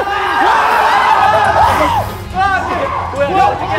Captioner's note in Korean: 끊임없는 괴성